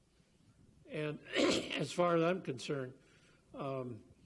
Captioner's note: coughs